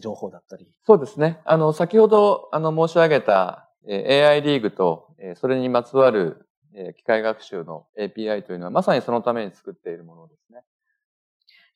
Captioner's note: speaking japanese